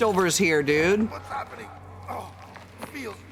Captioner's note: pained voice